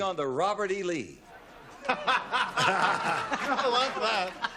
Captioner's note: laughs